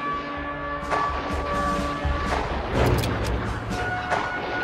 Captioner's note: shooting sounds